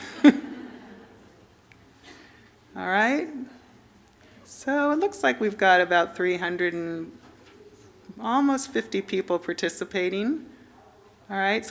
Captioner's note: laughter